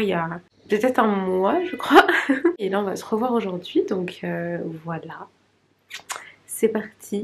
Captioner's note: laughs